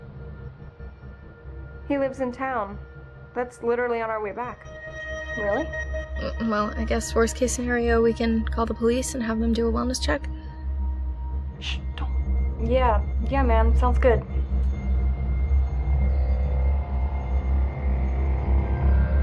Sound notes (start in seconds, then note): 11.5 whispers